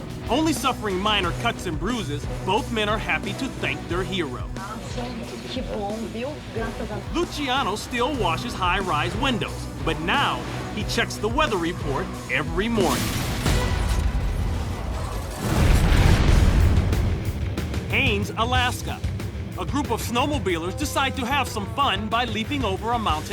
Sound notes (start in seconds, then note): 5.2 speaking spanish